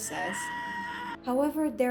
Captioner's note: Gaara screaming mp3